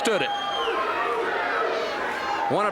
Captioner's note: audience barks